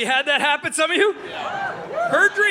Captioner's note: audience cheering